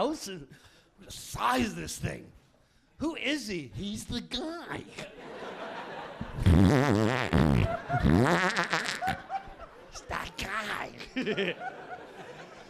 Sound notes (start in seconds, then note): 5.0 audience laughing